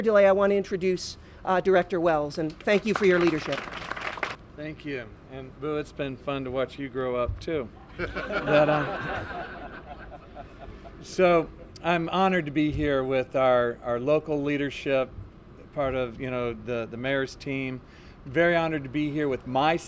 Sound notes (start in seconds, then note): 4.5 applause; 9.9 laughter